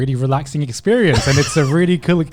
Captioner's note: laughing